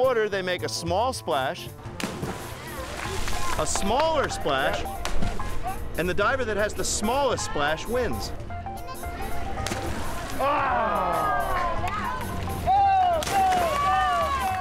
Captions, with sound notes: they make a small splash. A smaller splash. And the diver that has the smallest splash wins. (audience cheers) - Go, go, go, go, go. (kids cheering)